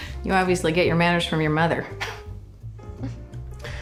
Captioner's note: chuckles